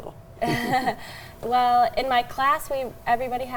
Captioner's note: chuckles